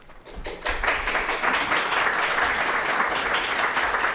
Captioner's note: audience applauds